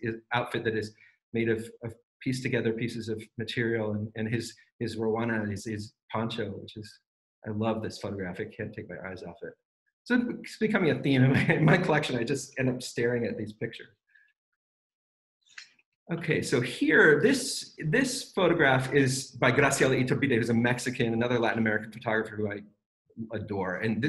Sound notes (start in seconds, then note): 11.2 laughs